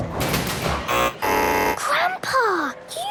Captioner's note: buzzing